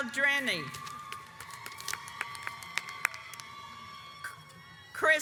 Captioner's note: audience applauds